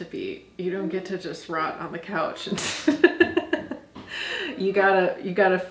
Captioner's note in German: lacht